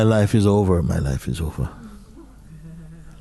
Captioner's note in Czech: smích